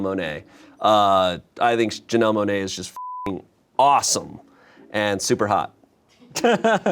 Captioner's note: beep